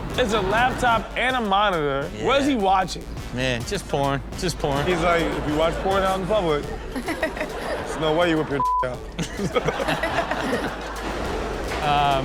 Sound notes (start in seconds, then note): 8.6 beep; 9.6 Chanel and Rob laughing